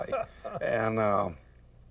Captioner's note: laughs